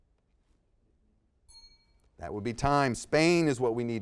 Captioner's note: bell dings